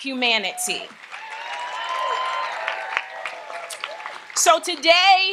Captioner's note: audience applauds and cheers